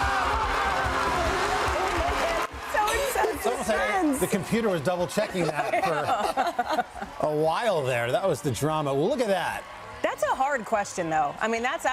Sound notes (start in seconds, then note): 1.6 laughter; 4.7 cheers and applause